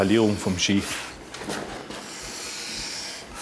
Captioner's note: low hissing